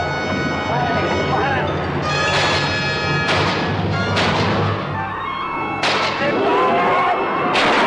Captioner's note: Colonel Cabeza speaking in Spanish; bullets firing; people screaming; intense instrumental music